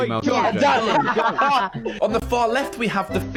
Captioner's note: laughing